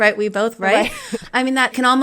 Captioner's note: laughter